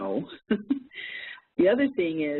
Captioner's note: giggles